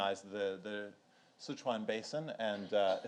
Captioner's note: speaks in foreign language